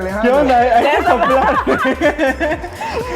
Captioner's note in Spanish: laughs